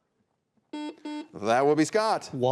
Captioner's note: buzzer buzzes